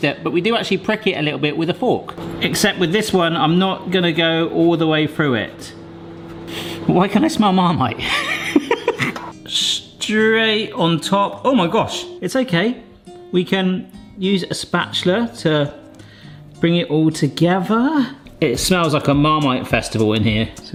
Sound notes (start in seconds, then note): 6.4 sniffs; 8.0 laughs